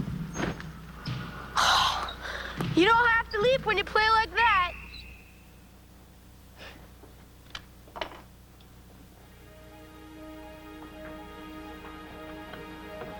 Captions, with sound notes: - (gasps) You don't have to leap when you play like that. (gentle somber music)